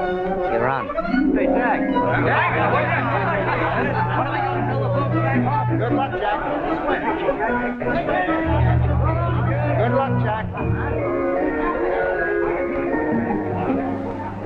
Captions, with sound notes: - You're on. - Say, Jack... [ CROWD NOISE ] Good luck, Jack! [ CROWD NOISE ] Good luck, Jack! [ ORIENTAL MUSIC ]